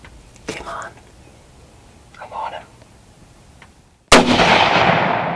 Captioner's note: whispering